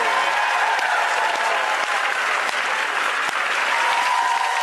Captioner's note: audience applauds